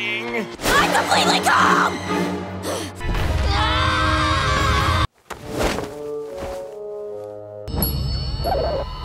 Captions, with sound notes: I'm completely calm! [screaming]